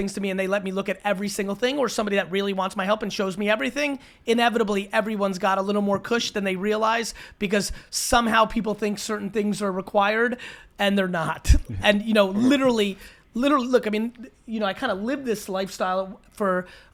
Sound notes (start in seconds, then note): 10.2 speaks too fast